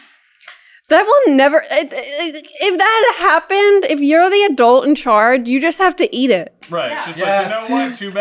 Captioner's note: stammer of frustration